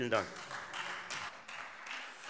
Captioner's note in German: Beifall Freie Demokraten